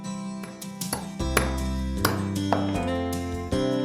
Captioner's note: gentle guitar music; hammering